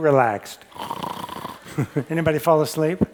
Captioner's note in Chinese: 打呼